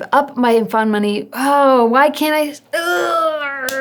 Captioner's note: grunts